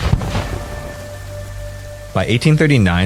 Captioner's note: cannon Sounds